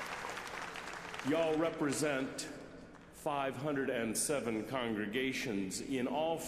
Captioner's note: applause